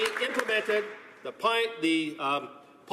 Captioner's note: some Applause